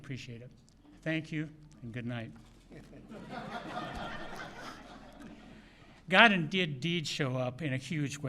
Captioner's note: laughter